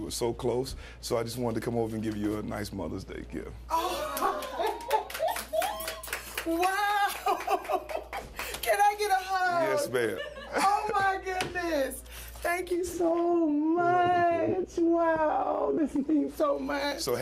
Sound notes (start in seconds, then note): 7.0 laughter; 7.1 applause